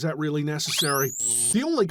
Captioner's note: electroshock